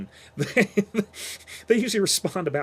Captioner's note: chuckles